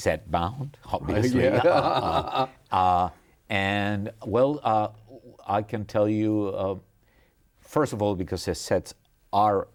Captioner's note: laughter